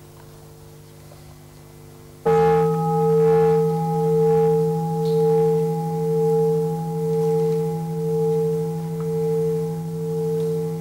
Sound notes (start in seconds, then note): 2.2 bell rings